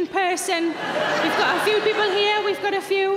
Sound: crowd laugh

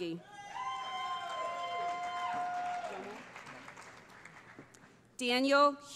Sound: cheering

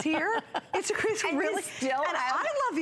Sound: laughter

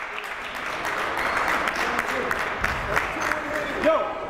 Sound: clapping

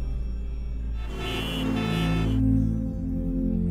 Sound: traffic noises

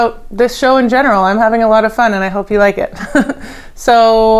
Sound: chuckles

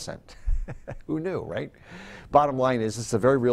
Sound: chuckles

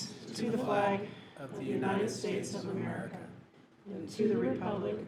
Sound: in Unison

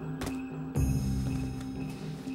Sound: none

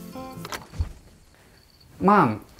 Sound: door clicks open

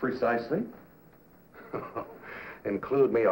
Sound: chuckling

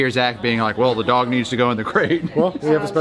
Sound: laughs

